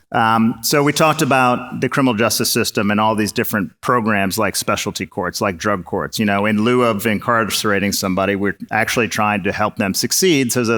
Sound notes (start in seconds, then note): none